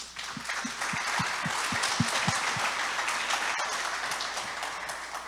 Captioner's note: audience applauding